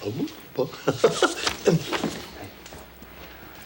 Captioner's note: John chuckles; John laughs